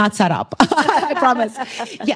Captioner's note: laughter